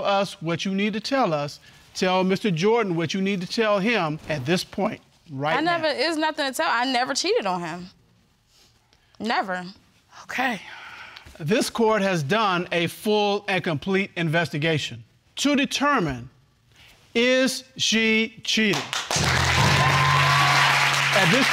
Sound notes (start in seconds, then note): 11.6 sighs; 18.7 audience applauding